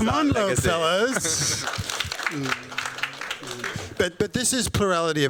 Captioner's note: applause